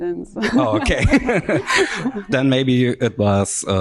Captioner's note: laughs